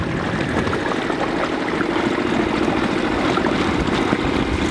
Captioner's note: boat engine whirring